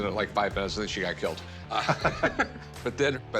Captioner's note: laughs